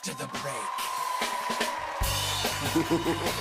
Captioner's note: cheers and applause; evil laughter